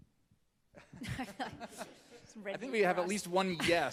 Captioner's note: panelists laughing